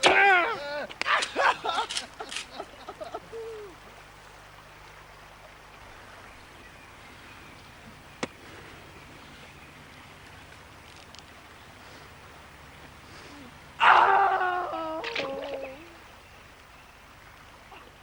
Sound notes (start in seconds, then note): 0.0 sobbing